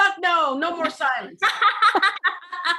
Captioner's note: laughter